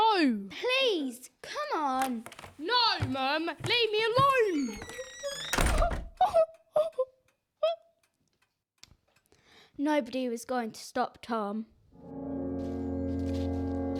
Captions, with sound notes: No! Please, come on! No mum, leave me alone! [door shuts] [cries] Nobody was going to stop Tom. [sinister music]